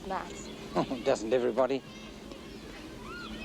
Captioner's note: chuckles